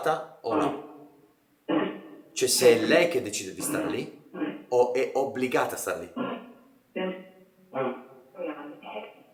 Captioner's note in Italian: schiarire la voce